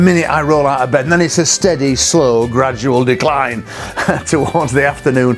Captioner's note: laughs